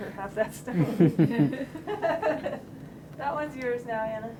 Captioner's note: laughter